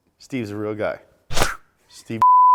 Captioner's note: swooshing